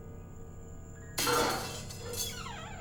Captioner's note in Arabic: رنين